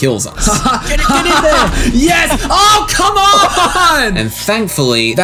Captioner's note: laughter